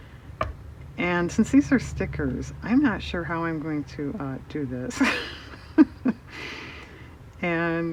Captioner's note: laughs